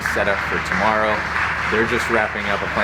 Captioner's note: loud clapping noises in the background